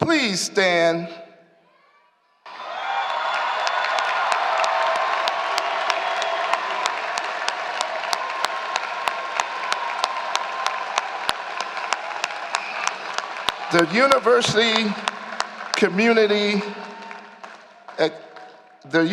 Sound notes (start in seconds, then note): 3.2 applause